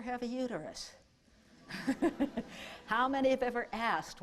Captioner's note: laughter